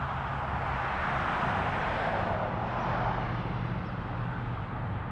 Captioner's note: more aesthetic traffic noises